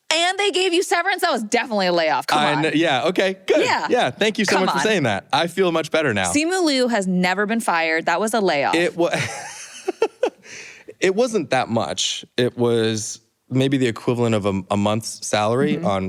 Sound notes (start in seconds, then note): 9.1 laughter